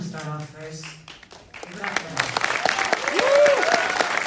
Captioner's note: applause